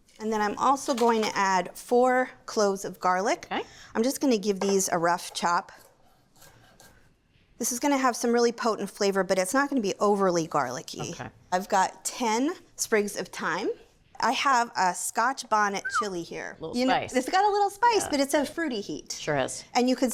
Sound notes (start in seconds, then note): 15.8 whistles